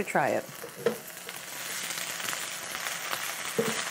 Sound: sizzling

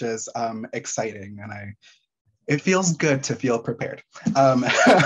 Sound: laughing

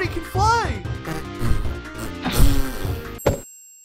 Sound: speaking Fartese

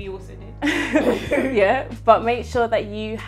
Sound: both laugh

